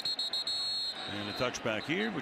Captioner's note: whistle